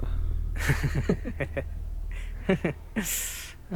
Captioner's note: laughs